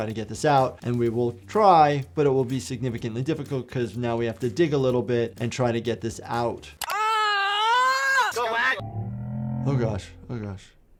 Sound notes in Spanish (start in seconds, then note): 7.0 el patinador grita